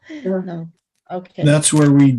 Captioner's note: chuckles